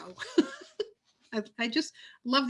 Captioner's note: laughs